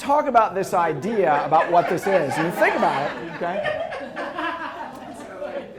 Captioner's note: interrupted by student laughter